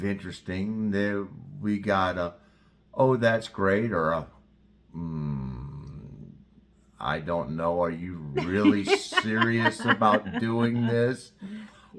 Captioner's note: laugh